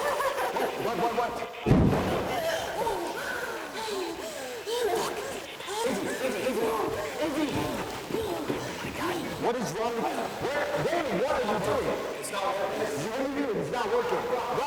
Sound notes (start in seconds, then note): 1.7 door bangs; 2.3 Isabel gasping